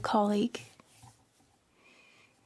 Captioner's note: speaking French